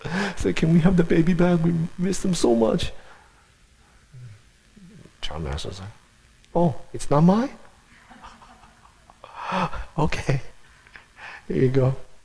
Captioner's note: laughter